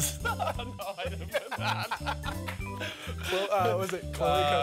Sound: laughing

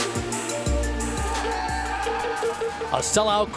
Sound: cheering

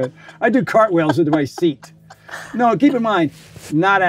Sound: laughs

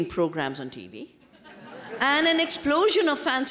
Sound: laughter

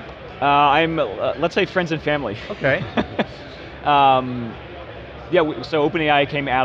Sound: laughs

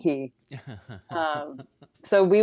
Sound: laughs

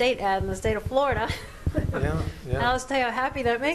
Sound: laughs

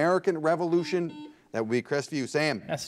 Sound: bell rings

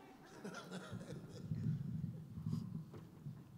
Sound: laughing

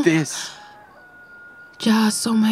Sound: rooster crowing

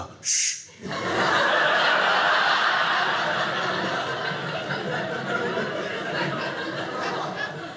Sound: audience laughing

